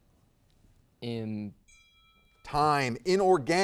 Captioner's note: timer beeping